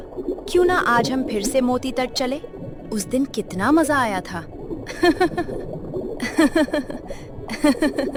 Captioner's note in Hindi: हंसी